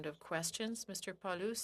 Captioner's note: speaking French